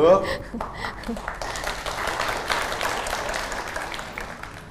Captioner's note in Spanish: Aplaudir